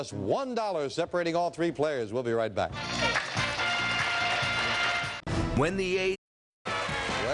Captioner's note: applause; theme music playing